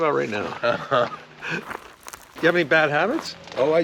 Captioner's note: Paul laughs